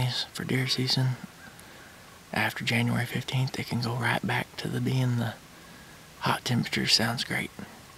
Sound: whispering

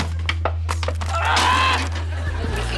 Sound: grunting

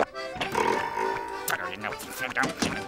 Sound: muttering

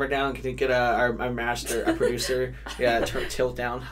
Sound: laughs

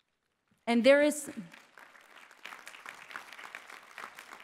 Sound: applause

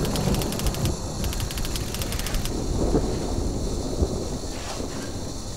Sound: typewriter clicking; garden hose water spraying

